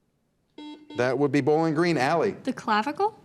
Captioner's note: buzzer beeps